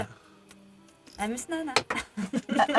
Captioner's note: Simlish